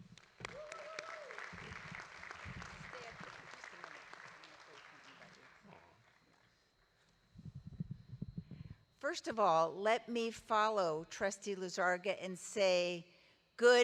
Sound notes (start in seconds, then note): 0.0 audience applauding